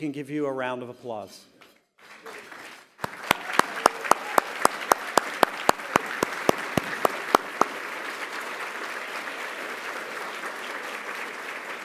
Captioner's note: applause